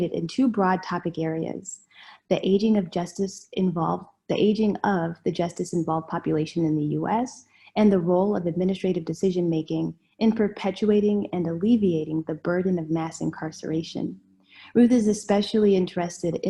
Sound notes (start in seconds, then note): none